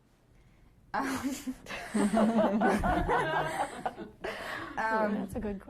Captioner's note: group laughing